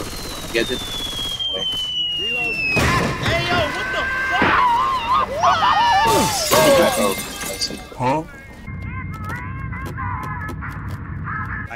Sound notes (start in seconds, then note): 5.0 scream; 7.0 scream